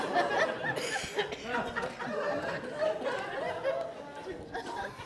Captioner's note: audience laughs